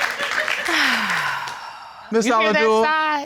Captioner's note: sighing affirmatively